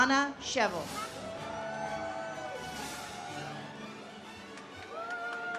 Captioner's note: audience cheers